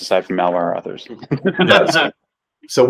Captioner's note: laughter